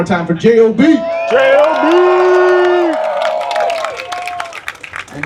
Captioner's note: applause